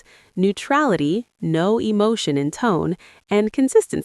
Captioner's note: no emotion in tone